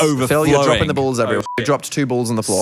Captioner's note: beep